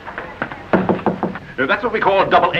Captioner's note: knocks on door